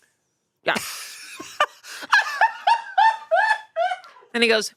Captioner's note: laughs